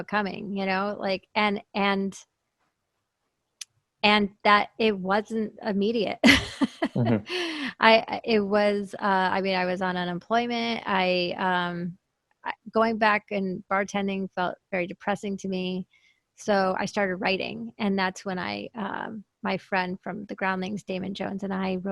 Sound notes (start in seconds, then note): 6.3 laughs